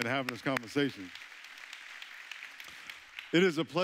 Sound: audience clapping

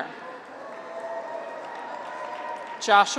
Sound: graduates cheer

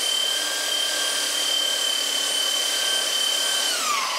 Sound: high whirring

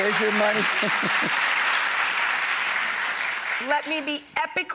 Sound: audience applauds

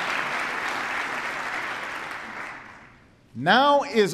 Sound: applause

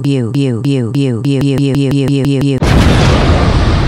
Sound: robomom starts glitching; robomom glitching faster; explosion noises

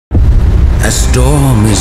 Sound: thunder

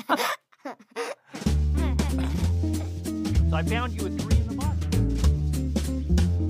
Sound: laughs

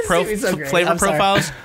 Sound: chuckles; laughter

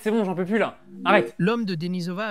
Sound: AI booting up sound

